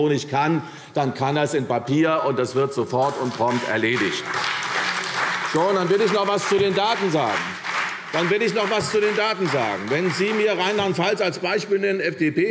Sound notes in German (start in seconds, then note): 4.4 Beifall CDU und BÜNDNIS 90/DIE GRÜNEN